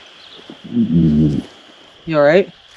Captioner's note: groans